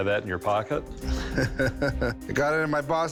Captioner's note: laughs